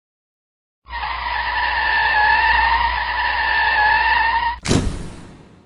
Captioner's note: tires screeching sound effect